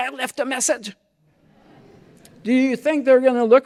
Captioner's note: laughter